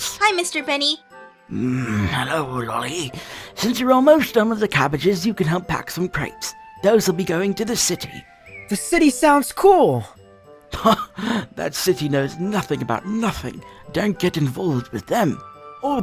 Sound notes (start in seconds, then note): 1.5 grumbling; 12.2 scoff